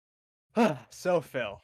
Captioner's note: sigh